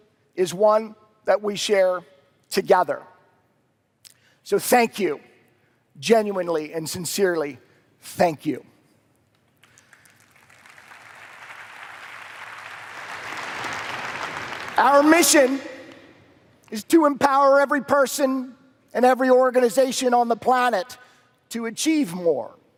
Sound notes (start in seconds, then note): 12.8 applause